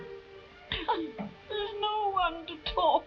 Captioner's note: Marquesa chuckles